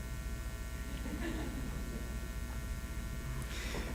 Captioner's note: laughing